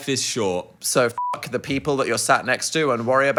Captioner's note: beep